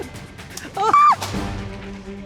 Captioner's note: shrieks